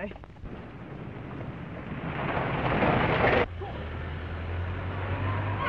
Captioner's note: car accelerating; car engine accelerating